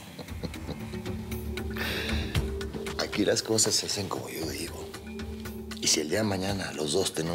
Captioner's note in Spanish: risas